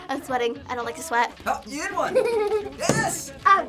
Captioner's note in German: kichern